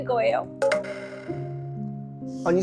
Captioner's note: drooping head sound effect